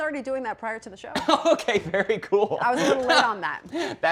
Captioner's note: laughs